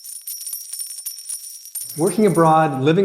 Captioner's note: coins clinking